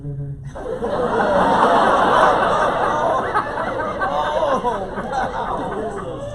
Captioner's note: laughter